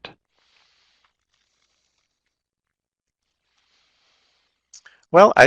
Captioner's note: no sound - waiting for questions in chat box